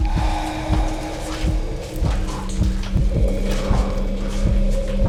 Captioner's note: zombies growling